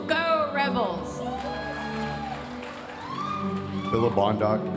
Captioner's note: audience cheering and applauding